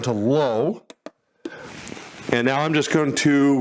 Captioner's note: button clicks